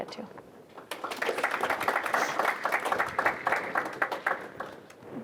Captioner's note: applause